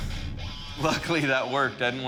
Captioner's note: rock music; laughs